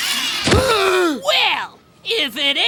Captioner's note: gasping